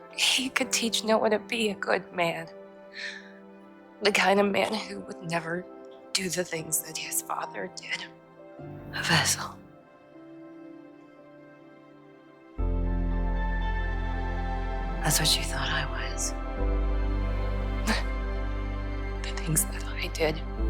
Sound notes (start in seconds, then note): 17.9 Serena laughs; 19.4 voiceover